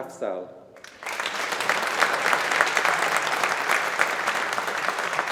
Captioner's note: audience applauding